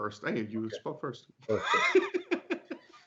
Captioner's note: laughing